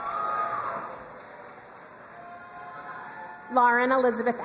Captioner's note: crowd cheering and applauding